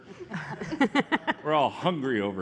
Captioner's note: laughter